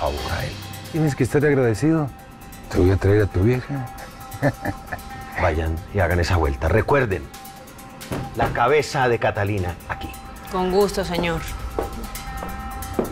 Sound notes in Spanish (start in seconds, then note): 4.0 Ríe